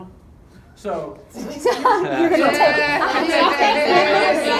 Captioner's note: laughing